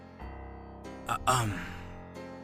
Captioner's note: LUCIFER clears his throat